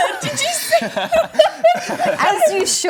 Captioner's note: laughter